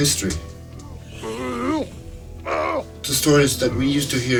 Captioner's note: grunting